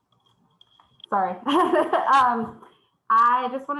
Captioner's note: laughs